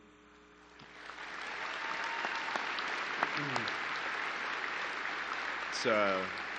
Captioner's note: applause